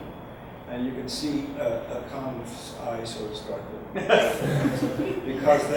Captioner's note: audience laughs